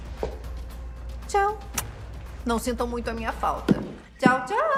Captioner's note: in English